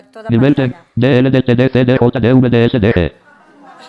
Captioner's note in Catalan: veu robòtica sense sentit; riures, sorpresa